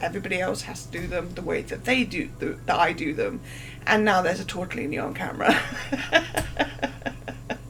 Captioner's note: laughing